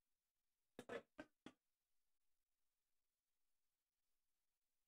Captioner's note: none